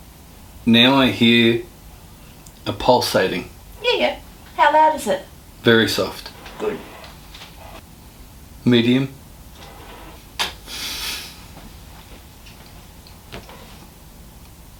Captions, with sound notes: Now I hear a pulsating, “yeah, yeah how loud is it?” Very soft “good”. medium (sniffles)